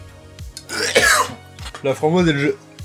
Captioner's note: retches